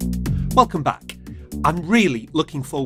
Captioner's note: upbeat music; voiceover